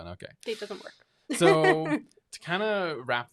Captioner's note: laughing